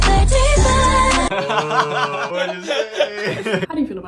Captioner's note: laughs